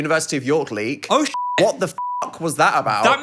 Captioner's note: beep